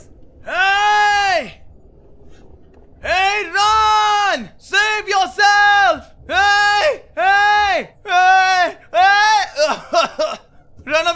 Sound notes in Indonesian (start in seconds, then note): 0.4 Teriakan; 4.6 Teriakan